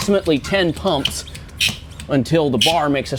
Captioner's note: hydraulic load bar squeaking